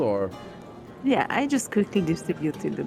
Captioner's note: none